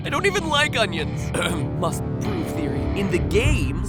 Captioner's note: clears throat